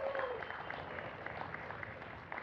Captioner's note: applause